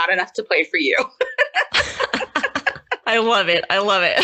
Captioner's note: both laugh